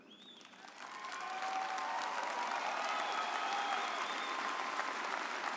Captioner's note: audince cheering